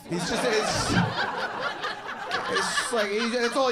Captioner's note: audience laughing